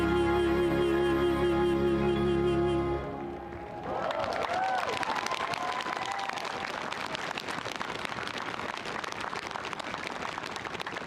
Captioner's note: cheering; applause